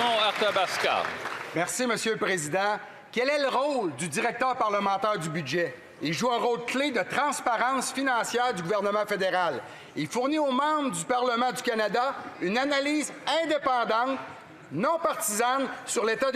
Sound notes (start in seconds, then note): 5.2 speaking French